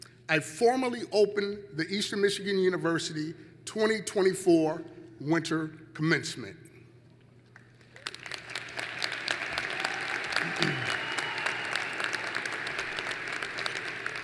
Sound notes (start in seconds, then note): 7.5 applause